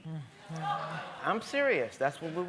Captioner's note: groaning